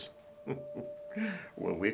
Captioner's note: chuckling